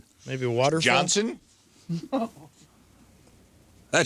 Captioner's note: laughing